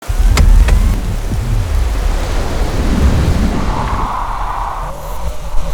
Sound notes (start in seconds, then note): 0.0 engine roaring; 0.0 water splashing